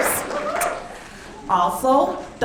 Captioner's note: audience clapping